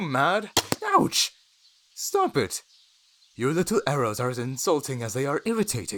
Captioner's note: arrow fires and impacts